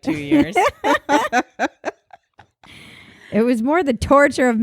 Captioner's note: laughing